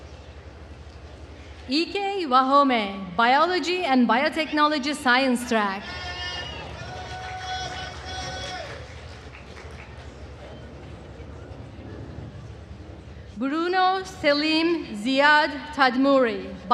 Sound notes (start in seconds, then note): 6.0 attendees cheering and applauding